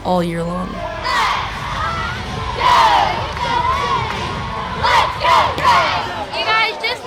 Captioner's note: cheering